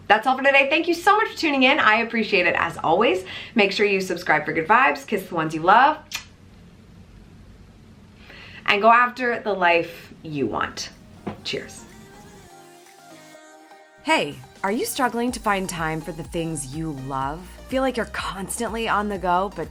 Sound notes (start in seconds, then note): 6.1 lips smack; 12.3 mellow music